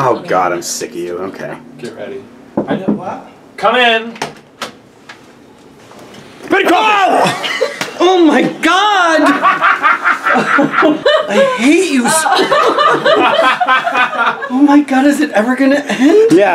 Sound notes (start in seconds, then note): 2.5 knocking; 6.7 screaming; 8.8 laughs